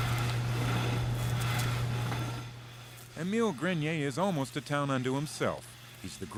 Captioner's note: scraping